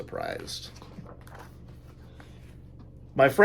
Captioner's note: pages turn